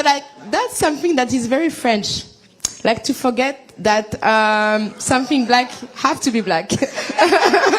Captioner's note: laughter